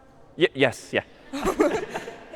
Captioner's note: خنده